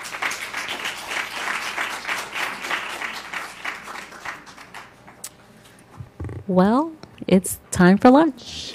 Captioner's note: applause